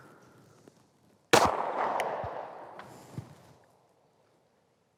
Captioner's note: gun bangs